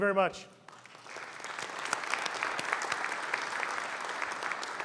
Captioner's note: audience applauding